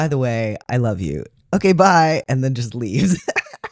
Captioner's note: laugh